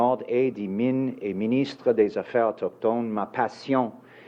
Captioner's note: speaking in French